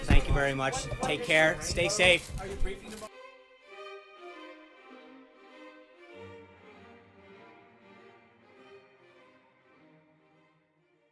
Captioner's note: audio fades out